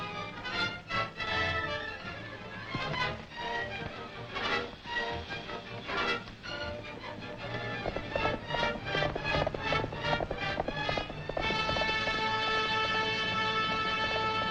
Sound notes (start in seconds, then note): 0.2 dramatic music; 8.4 hooves galloping